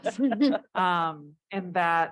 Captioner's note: panel laughs